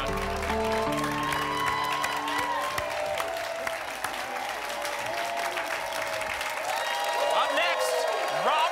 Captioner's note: applause and cheering